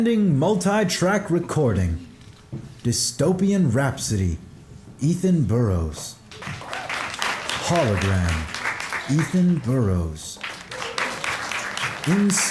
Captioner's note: applause